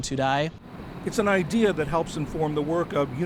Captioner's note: voice-over